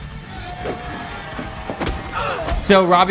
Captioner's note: blows thudding